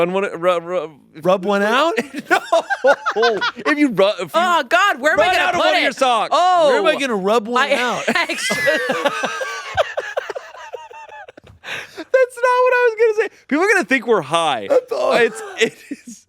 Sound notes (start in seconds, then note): 1.6 laughs; 7.6 laughing